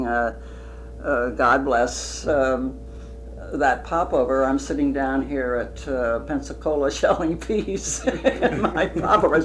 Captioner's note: laughter